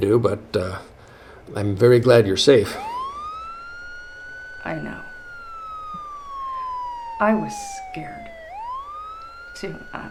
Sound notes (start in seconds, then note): 2.4 siren wails in the distance